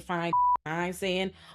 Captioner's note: beep